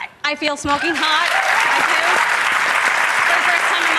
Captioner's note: audience clapping